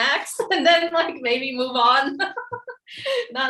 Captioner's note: laughs